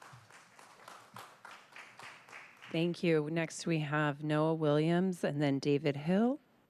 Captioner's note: applause